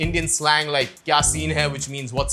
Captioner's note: speaking in foreign language